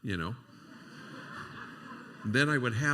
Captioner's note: laughter